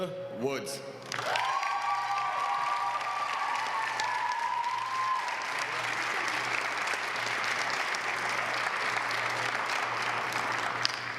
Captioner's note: applause